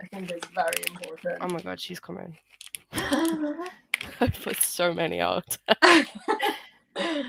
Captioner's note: laughter